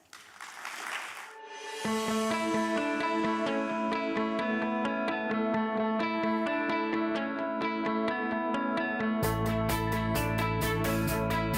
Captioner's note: applause